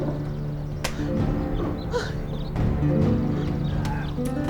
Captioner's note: guadalupe speaking spanish; punching continues